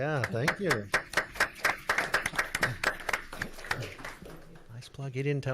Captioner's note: audience clapping